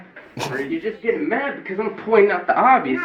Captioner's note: snickers